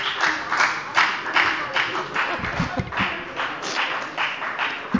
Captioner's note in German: Beifall bei der FDP